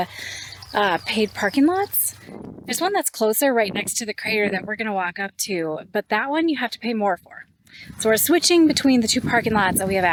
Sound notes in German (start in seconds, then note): none